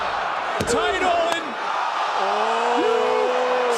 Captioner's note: hand smacks